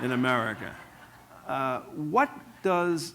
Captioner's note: laughter